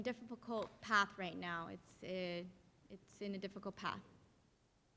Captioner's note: speaking in Spanish